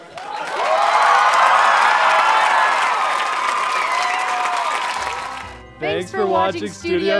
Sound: audience cheering

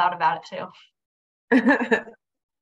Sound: laughter

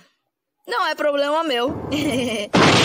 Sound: laughs

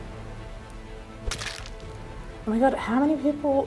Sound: suspenseful music; squelching

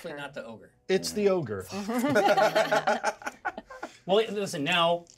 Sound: laughs

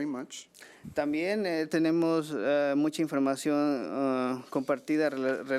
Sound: man speaking foreign language

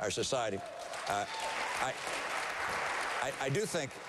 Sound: applause

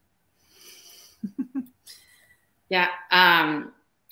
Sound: laughing

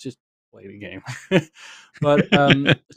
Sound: laughter

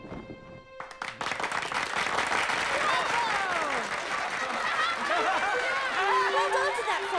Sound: applause

